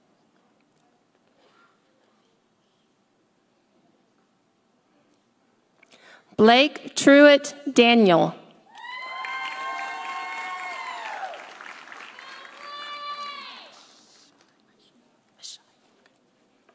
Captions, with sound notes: Blake Truitt Daniel. (audience cheering) (audience applauding)